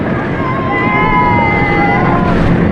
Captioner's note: cheerers